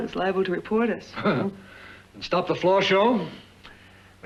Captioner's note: laughs